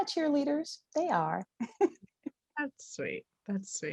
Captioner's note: laughs